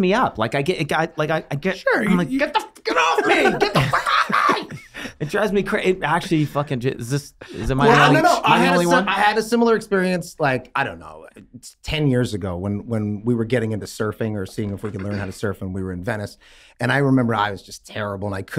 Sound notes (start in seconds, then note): 6.7 Glenn stuttering